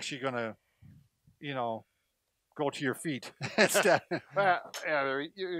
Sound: chuckles

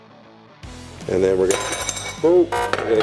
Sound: glass clatters

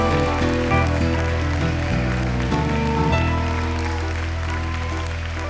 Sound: audience applauding

